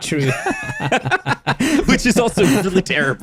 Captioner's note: both laughing